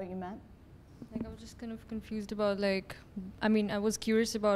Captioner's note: voiceover